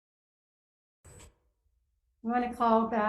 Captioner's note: gavel bangs